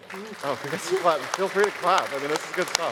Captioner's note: applause